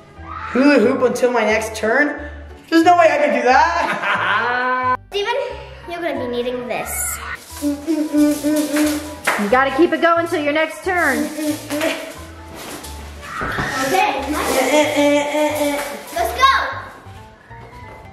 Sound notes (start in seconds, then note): 3.1 laughs; 7.5 humms